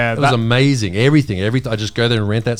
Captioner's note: laughing